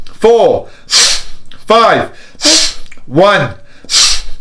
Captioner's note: deep breaths